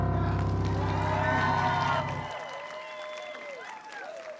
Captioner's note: audience applauding